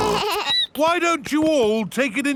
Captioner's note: snorts; bleats